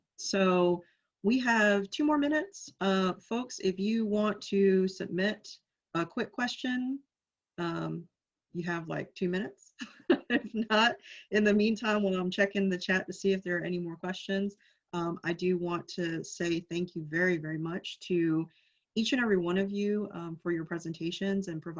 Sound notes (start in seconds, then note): 10.1 laughs